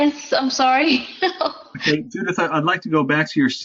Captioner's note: laugh